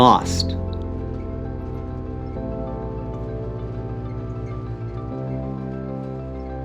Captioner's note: gentle music; engine humming